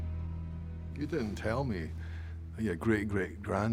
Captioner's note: scottish accent